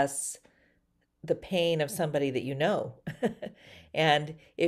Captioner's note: chuckles